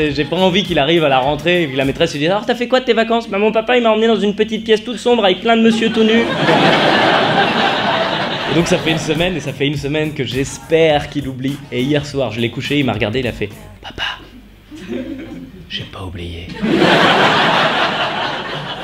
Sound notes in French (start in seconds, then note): 3.3 voix d'enfant; 5.6 rires; 13.8 chuchote; 16.5 rires